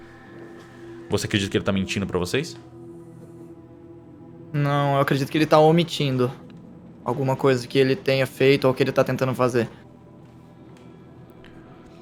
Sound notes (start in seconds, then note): none